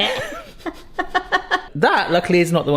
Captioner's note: both laughing